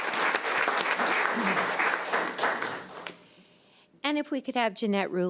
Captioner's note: audience applauds